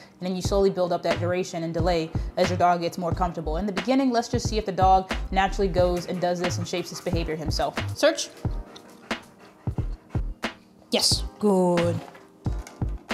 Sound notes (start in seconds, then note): 8.7 dog panting